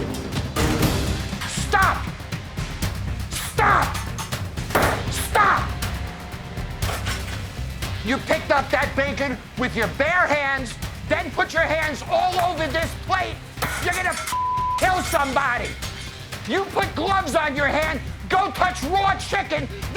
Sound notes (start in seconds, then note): 0.2 intense drum music continues; 3.5 hand banging; 6.6 intense drum music; 12.5 beeping